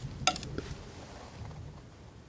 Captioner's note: tapping